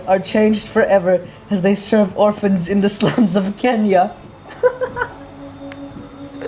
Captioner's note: laughs